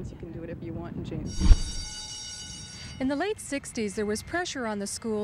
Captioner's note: school bell rings